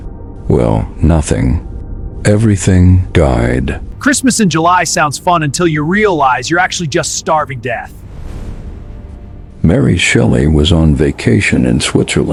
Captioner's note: sarcastic Commentary